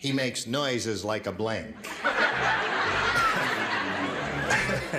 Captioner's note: laughter